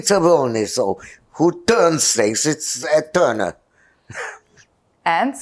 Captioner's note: laughing